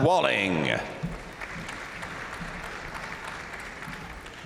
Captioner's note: crowd applauding